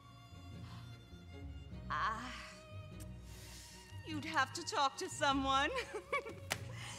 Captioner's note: laughs